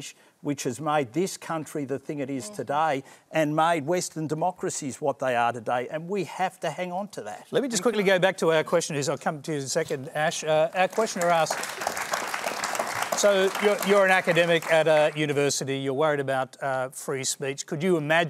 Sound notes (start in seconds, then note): 10.8 applause